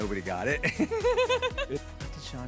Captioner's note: laughing